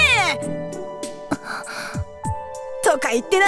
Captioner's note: troubled gasp